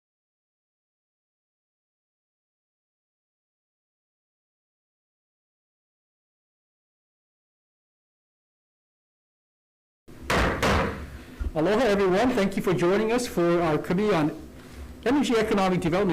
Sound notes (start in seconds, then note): 10.2 gavel bangs